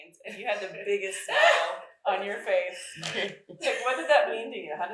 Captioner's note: chuckles